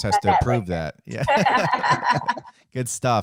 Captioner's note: laughs